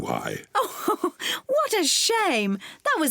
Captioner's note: laughs